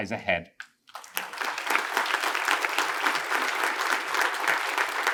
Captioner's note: attendees applaud